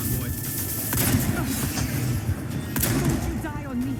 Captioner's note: gun banging